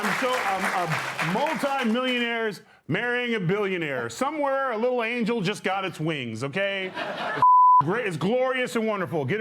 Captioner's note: cheering and applause